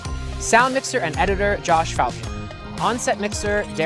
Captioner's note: none